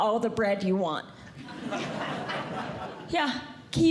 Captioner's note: audience Laughing